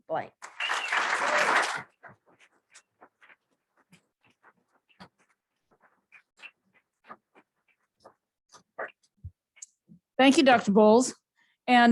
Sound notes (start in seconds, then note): 0.4 applause